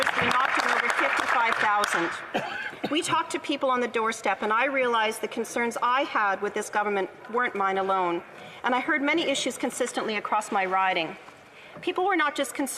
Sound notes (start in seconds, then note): 1.8 some Applause